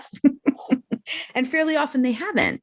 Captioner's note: giggling